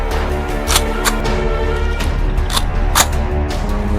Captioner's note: gun cocking